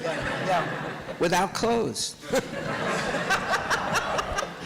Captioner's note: laughter